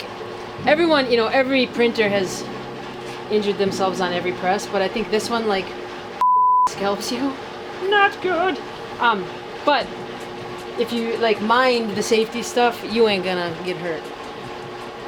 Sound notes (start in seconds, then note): 5.5 beeping